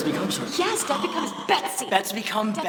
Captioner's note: gasping